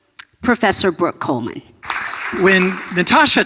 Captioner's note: audience applauding